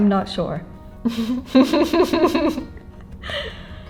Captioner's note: delirious laughter